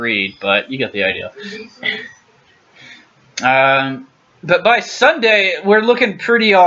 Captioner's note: clears throat